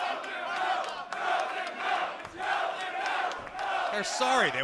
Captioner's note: fans chanting